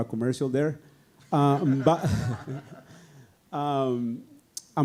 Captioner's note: audience laughing